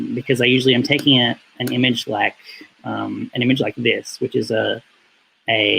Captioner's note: none